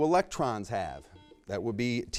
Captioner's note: buzzer beeps